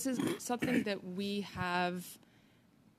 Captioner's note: speaking French